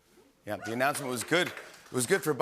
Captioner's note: cheering and applause